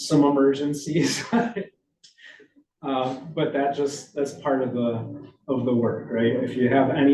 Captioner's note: chuckles